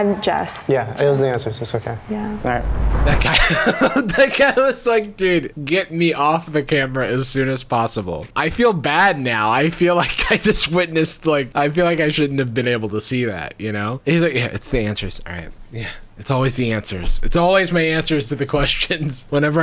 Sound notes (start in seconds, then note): 3.2 laughing